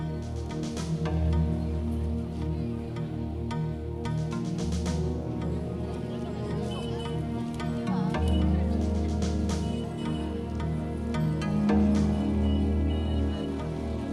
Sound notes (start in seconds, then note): 5.8 gentle music; 9.3 car horns honking